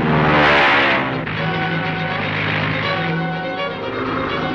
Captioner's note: plane engine roaring